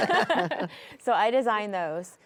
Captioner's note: chuckle